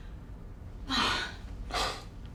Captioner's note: sighs